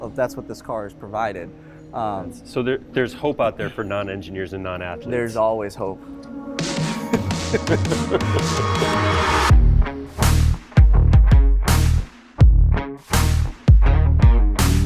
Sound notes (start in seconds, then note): 6.7 rock music; 6.9 laughs